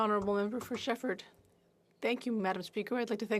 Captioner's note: speaking French